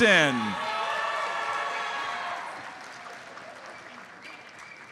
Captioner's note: audience cheers and applauds